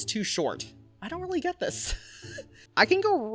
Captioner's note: chuckles